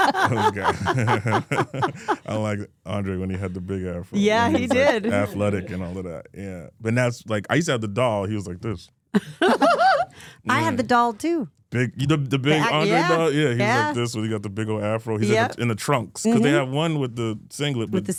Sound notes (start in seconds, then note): 0.0 all laughing